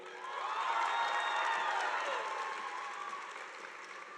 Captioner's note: audience applauding